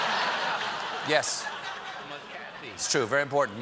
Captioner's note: laughter